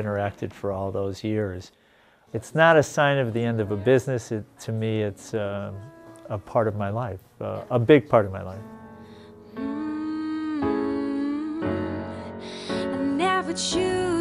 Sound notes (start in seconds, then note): 9.5 mmmm